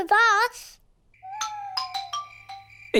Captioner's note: owls hoot